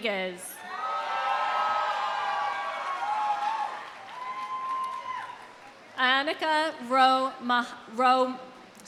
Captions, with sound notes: (audience cheering) (audience applauding) Annika, sorry. Anikka Romano.